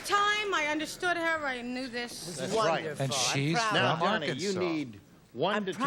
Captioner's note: none